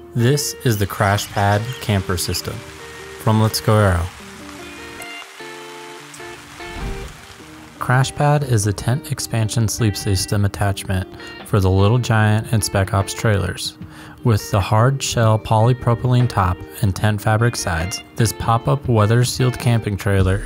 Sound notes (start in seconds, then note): 4.3 soft Rain and Birds Chirping